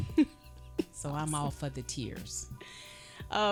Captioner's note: chuckling